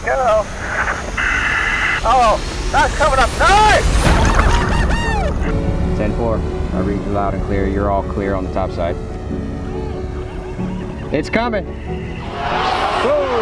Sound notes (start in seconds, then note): 1.1 dramatic music; 4.5 cheers; 6.3 radio Voice; 9.6 uplifting music